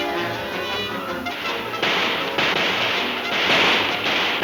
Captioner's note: gun shooting; guns firing